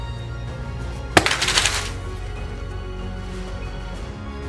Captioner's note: thump and falling crash